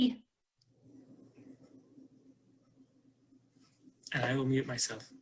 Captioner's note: silence